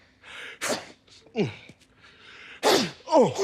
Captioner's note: sneezes a bit louder; sneezes softly